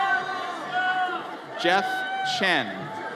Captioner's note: audience cheers